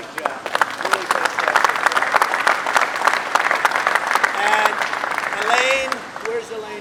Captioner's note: applause